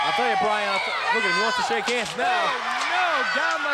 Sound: crowd yelling

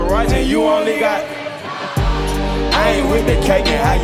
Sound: crowd

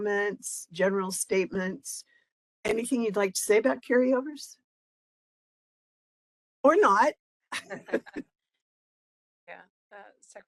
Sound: laughing

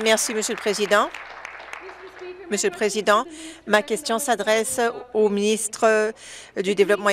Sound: applause

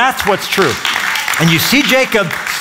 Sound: applause

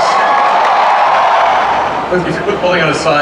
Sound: crowd cheering

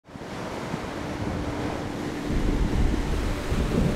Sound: waves crashing; ambient Music

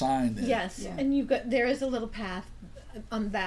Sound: voiceover

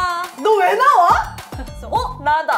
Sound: screaming at herself

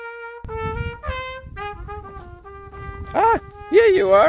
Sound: wind blowing

